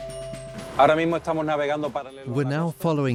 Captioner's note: drumming music; Spanish dubbed into English